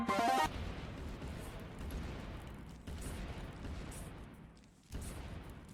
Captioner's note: sounds of explosions